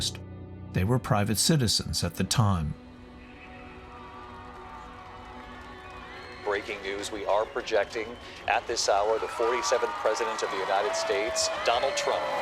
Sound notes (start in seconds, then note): 3.4 cheering